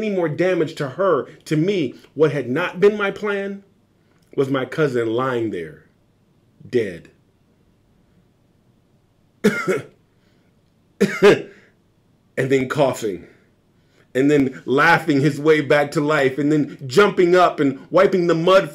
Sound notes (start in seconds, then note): 9.4 cough sounds